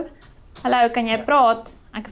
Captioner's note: speaks in foreign language